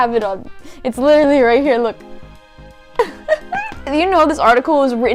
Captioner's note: another creepy Cardi B like laugh